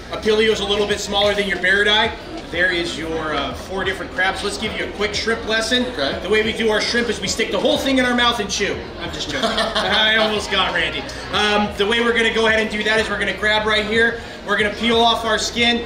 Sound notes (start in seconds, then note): 9.3 laughing